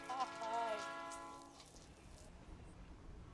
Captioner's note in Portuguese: barulho de trem